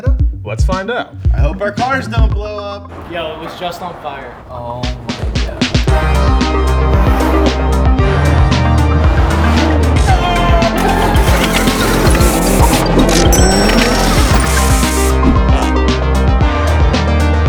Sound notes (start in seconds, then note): 6.1 upbeat music; 12.1 car engines roaring